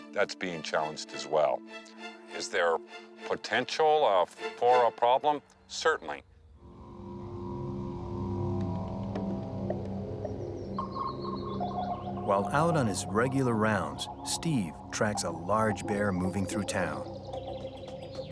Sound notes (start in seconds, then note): 6.7 tense music; 10.2 birds chirping